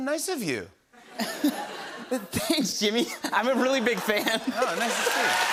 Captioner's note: giggles